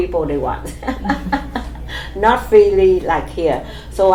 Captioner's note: laughs